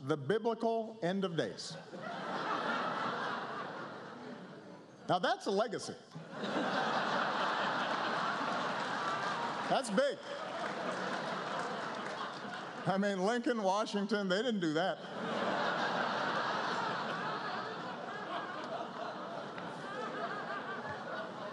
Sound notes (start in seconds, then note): 6.1 laughter